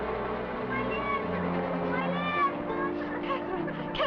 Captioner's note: sobs